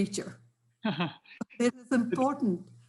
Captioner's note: laughs